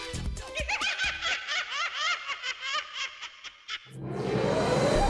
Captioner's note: laughing